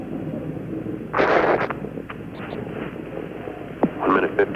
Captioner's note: radio static